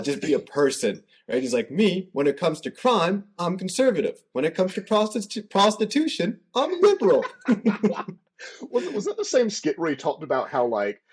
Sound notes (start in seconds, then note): 6.8 laughter